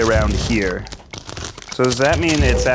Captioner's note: paper crinkles